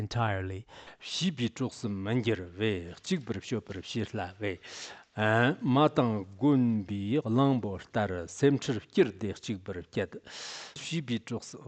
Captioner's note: giving oral transmission in Tibetan